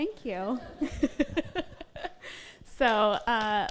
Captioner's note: all laugh